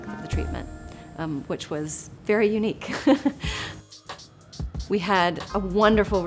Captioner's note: chuckles